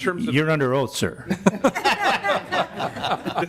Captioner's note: laughing